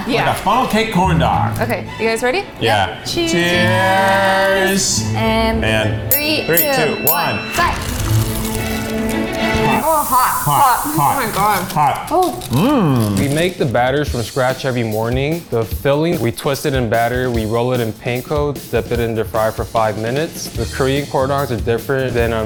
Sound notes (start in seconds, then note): 7.7 corn dogs crunching; 9.3 whimsical music